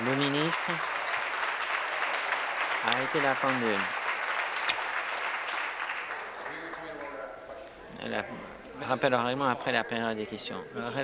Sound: applause

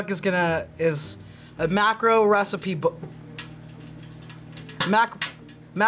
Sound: bacon crackles

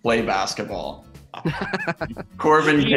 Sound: laughing

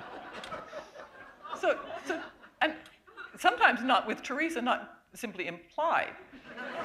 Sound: laughter

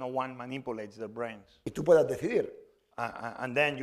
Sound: speaking spanish

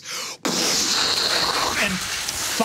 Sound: blowing air

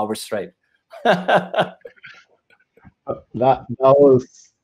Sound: chuckles

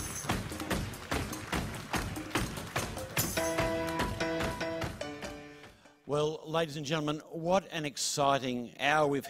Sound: alause

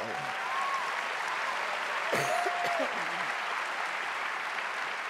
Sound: audience cheering and applauding

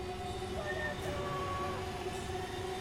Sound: distant scream

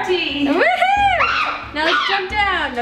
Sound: cheers

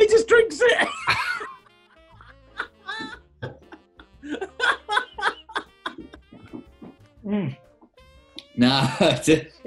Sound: laughter

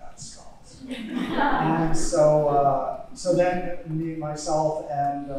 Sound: audience laughing

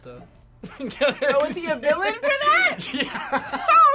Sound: laughs

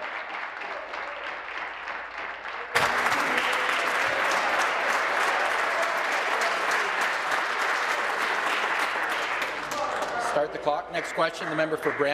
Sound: applause

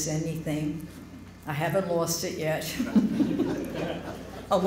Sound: laughter

